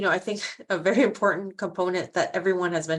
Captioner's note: chuckling